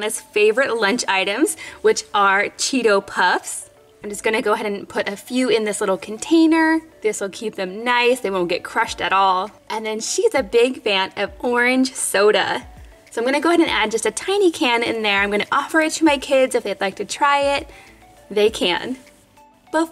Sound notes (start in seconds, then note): none